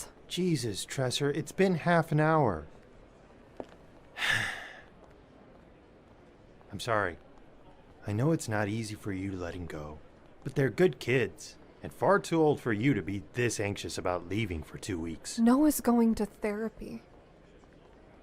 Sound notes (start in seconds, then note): 4.1 sighs